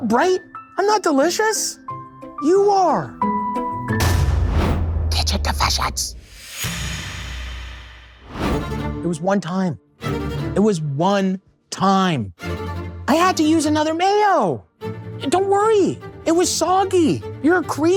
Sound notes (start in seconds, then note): 3.9 title thuds; 7.1 text thuds; 8.8 dramatic music